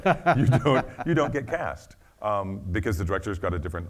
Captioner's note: laughing